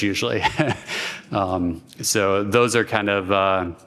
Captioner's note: laughter